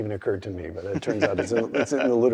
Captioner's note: laugh